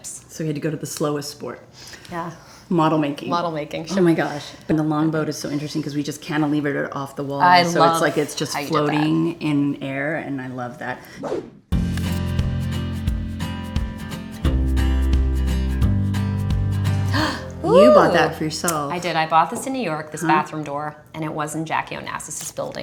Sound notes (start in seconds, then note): 17.1 Kirsten gasps